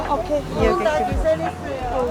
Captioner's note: speaking in foreign language